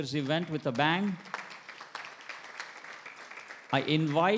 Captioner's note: attendees applauding